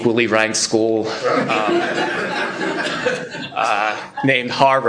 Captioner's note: laughter